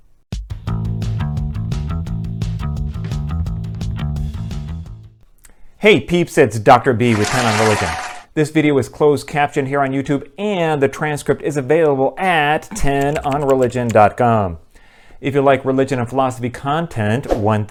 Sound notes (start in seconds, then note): 7.1 applause; 12.8 typing